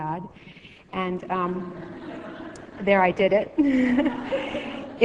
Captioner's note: laughing